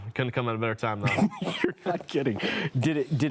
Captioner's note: chuckles